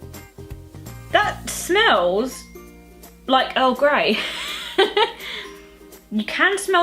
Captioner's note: laughs